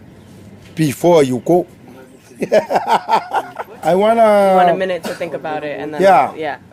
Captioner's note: laughs